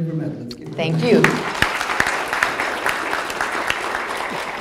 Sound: audience applause

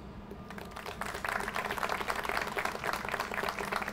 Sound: audience applauds

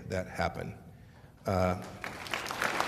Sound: applause

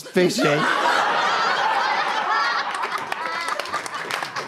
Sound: audience loses it; applause

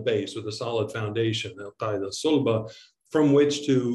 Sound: speaking in Arabic

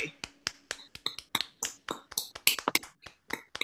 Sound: applause

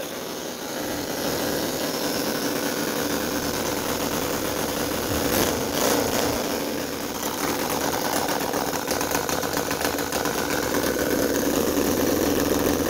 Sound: exhaust

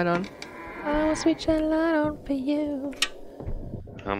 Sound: door creek open

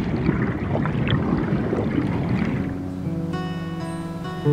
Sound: bubbling; melodic guitar music

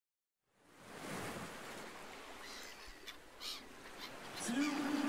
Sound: ocean sounds

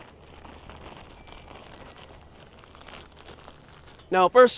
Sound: plastic crinkling

